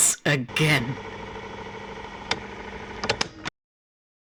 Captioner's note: tape recorder stops